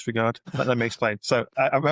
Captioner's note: chuckles